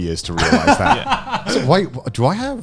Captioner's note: laughing